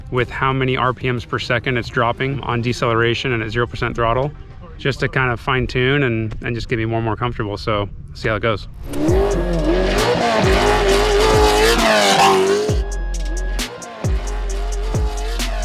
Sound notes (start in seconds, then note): 8.8 car engine revving; 8.9 upbeat music